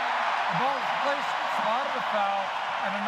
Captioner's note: cheering